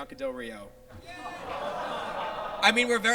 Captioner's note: audience groans